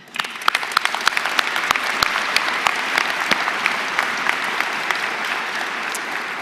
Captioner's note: applause